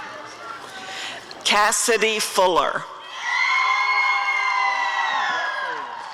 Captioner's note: audience cheering